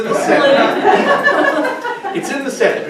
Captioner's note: audience laughing